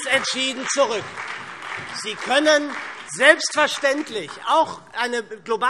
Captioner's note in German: Beifall SPD und Freie Demokraten